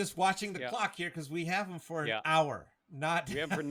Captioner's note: laughs